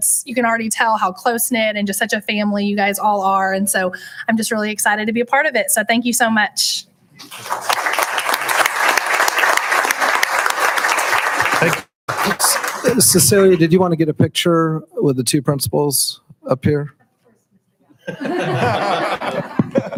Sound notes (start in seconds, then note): 7.2 applauding; 12.6 audio skips; 18.0 audience laughs